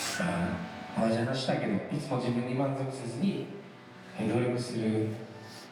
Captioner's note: speaking foreign language